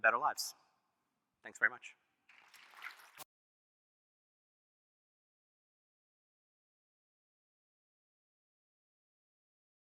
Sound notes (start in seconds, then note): 2.4 applause